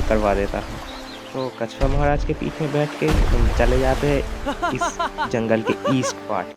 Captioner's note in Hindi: हंसी